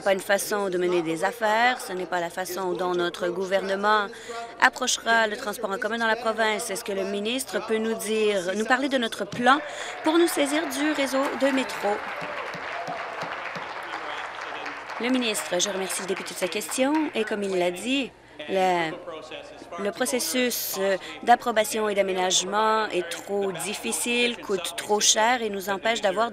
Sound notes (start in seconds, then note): 13.4 applause